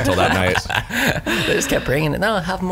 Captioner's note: laughs